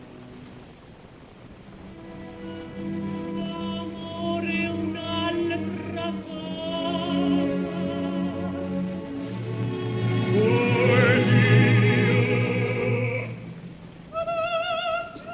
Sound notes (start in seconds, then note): 4.9 dreamily